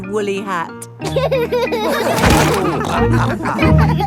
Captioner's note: all laughing